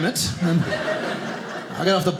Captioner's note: audience laughing